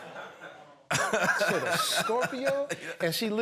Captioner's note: laughter